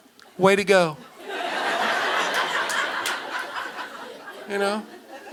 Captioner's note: audience laughing